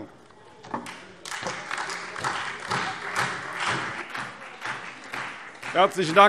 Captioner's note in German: Beifall SPD, Freie Demokraten, vereinzelt AfD und DIE LINKE